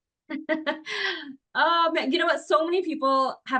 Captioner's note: laughs